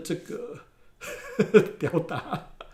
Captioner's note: laughs